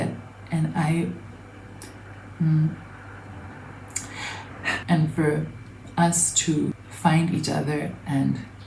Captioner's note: inhales, exhales